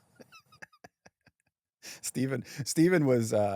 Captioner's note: laughs